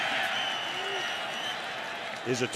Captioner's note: whistle blows